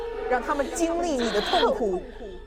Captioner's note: Mandarin language